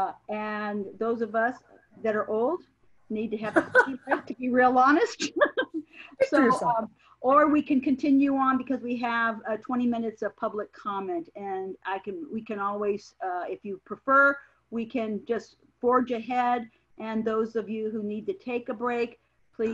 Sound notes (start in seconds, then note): 3.4 laughs